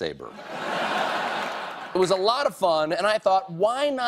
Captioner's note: laughter